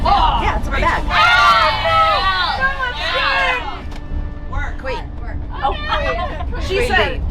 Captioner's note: yelling